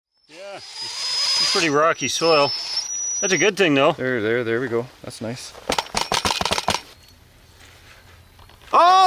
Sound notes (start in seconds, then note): 0.2 drilling whirring; 5.6 metal clanking